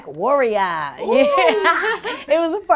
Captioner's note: laughing